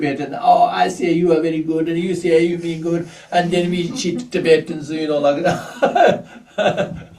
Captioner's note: laughs